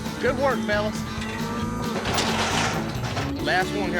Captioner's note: gate clanking